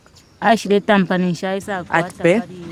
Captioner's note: vocalising; mother speaking foreign language